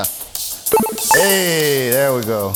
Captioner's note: retro video game ding